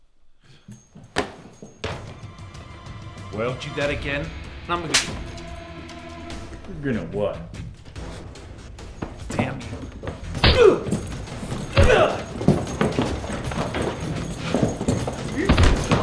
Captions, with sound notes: (dramatic music) Well? - Do that again, I'm gonna-- - You're gonna what? - Damn you! (grunting)